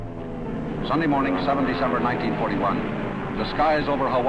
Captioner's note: voiceover